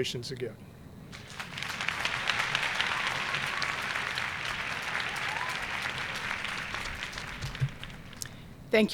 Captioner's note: applause